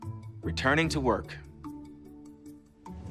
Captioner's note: transition swooshes